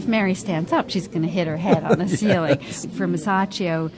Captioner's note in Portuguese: risos